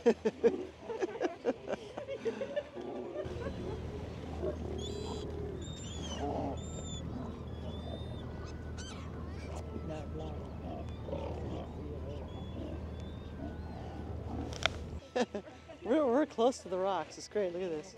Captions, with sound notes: [laughs] [birds chirping] We're close to the rocks. It's great. Look at this.